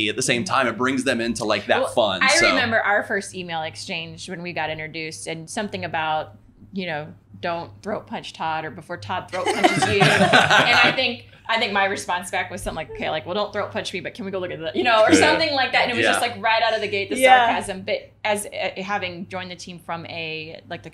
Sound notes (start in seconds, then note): 9.4 laughing